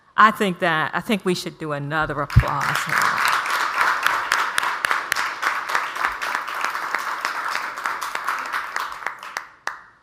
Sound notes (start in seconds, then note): 2.4 audience applauds